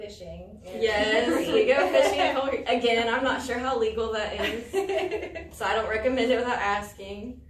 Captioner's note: all laugh